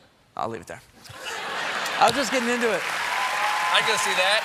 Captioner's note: cheers and applause